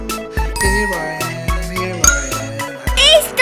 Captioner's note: magical ting